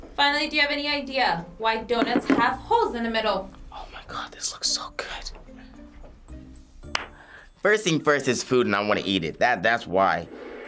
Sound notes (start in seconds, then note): 3.7 whispers; 6.9 claps